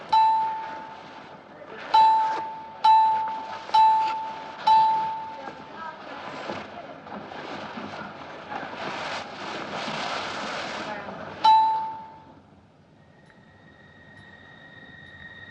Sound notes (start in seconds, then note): 0.1 bell dings; 6.8 people chattering nearby; 11.4 bell dings